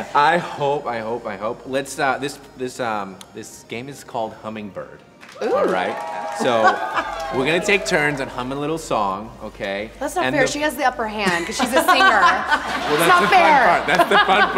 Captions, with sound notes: - I hope, I hope, I hope. This game is called Hummingbird. (audience cheers) So, we're gonna take turns and hum a little song, okay. - That's not fair, she has the upper hand, 'cause she's a singer. (audience laughing)